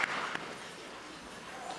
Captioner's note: applause